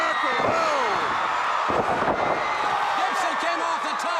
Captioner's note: crowd cheering